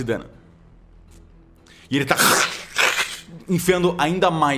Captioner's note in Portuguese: Barulho de mordida